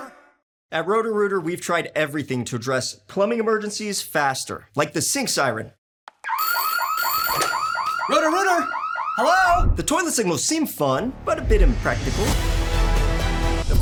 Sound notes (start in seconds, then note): 6.2 siren wails